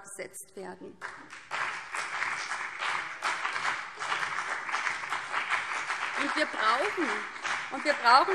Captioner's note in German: Beifall BÜNDNIS 90/DIE GRÜNEN und vereinzelt CDU